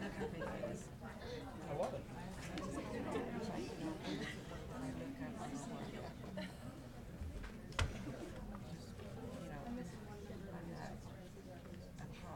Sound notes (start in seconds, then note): 4.8 people chattering